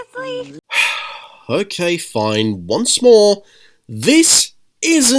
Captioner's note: sigh